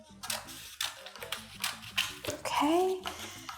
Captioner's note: paper crunching